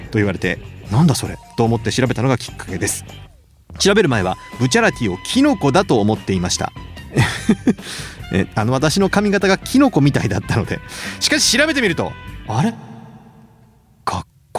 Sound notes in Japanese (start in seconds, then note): 7.1 笑い